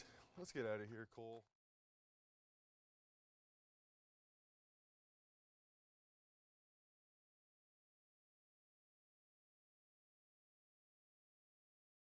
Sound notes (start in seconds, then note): none